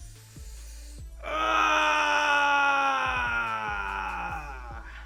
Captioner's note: grunts